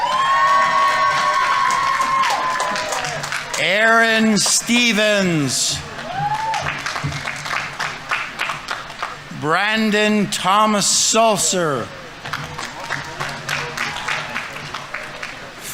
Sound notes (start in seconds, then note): 0.0 audience members cheering; 0.1 audience applauding; 6.2 audience members cheering; 7.5 audience applauding; 11.7 audience applauding